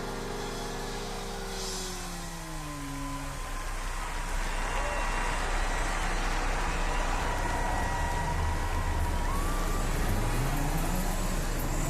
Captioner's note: crowd cheering